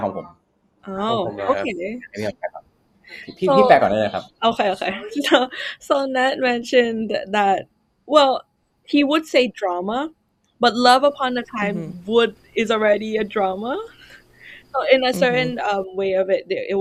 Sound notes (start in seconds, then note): 1.1 clarifying in Thai; 2.4 responding in Thai